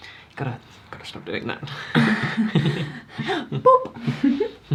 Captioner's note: they laugh